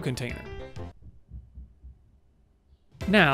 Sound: silence

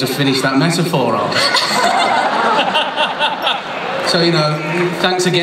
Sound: laughter

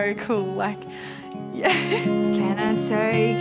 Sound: laughs

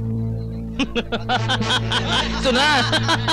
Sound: laughing

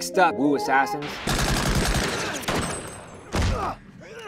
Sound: guns fire

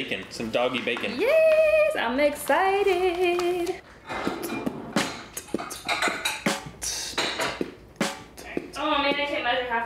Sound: beat boxing

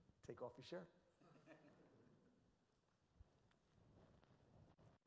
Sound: audience chuckles

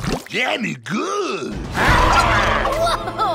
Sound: screaming

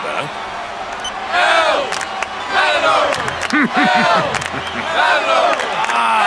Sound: crowd doing El Matador Cheer

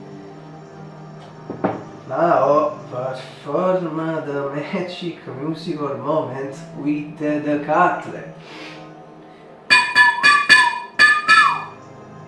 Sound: whistle

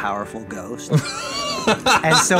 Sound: laughing

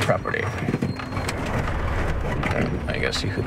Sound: air whooshing

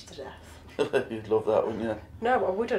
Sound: laughs

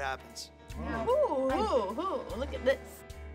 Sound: gasping

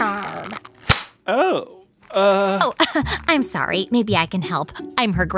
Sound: soundbite of spandex stretch and snap

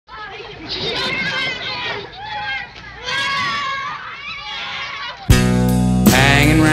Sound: kids chattering

